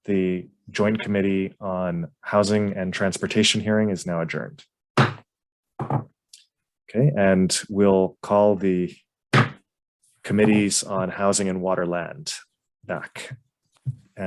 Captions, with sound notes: The Joint Committee on Housing and Transportation hearing is now adjourned. (gavel bangs) Okay? And we'll call the Committees on Housing and Water and Land back.